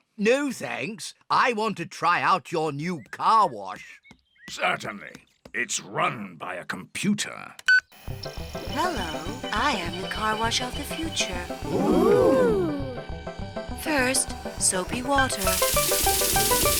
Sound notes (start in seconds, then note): 7.7 beeps